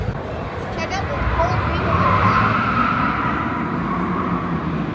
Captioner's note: screech